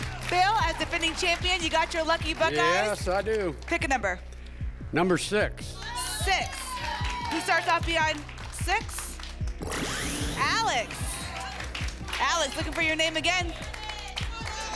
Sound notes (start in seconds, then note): 10.6 applause